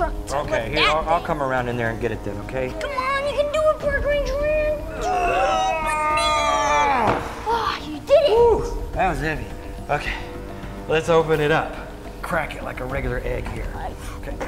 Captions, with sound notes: to lift that thing. - Okay, I'll come around in there and get it then, okay? - Come on, you can do it Park Ranger Aaron! (grunting) - You did it! - That was heavy. Okay, let's open it up. Crack it, like a regular egg here.